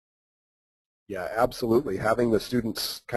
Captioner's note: voiceover